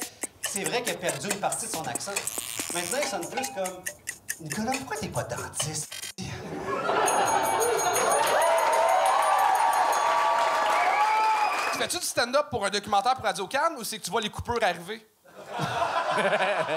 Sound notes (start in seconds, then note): 6.1 applause; 6.8 bell ringing; 15.4 laughs